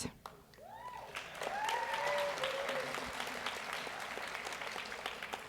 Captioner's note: audience cheers and applauds